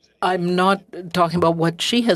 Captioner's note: speaking French